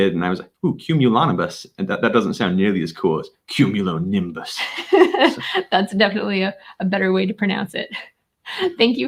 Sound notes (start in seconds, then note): 4.6 laughing